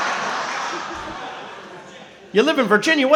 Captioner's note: speaking softly